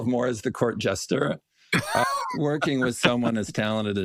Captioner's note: laugh